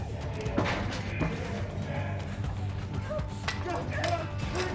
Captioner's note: shouting